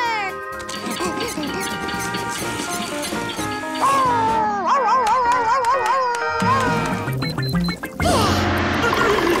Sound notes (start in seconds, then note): 3.4 barking; 7.4 grunting